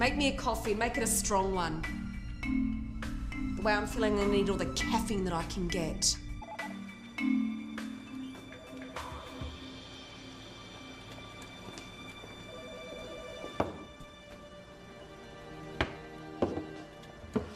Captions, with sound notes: Make me a coffee, make it a strong one. The way I'm feeling I'm gonna need all the caffeine that I can get. (phone ringing) (slow paced music)